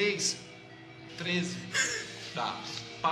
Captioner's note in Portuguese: risada